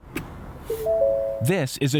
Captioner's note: instrument panel chiming